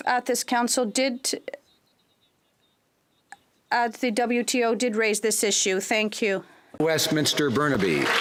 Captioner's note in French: voix de l'interprète